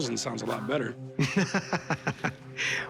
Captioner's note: laughs